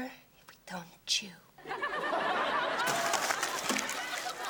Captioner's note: audience laughs